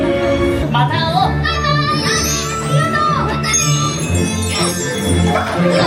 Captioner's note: characters speaking Japanese